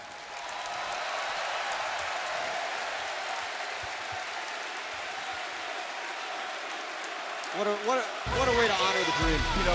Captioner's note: crowd cheering